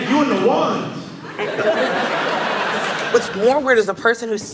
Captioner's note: audience laughing